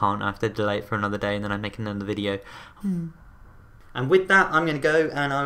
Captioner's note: sigh